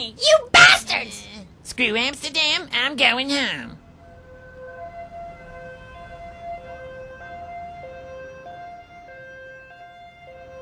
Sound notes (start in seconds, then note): 3.8 ambulance alarm